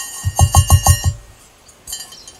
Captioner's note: tap tap tap